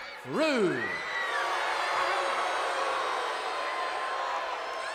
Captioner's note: crowd boos